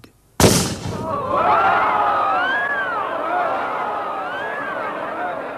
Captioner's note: gun bangs; shouting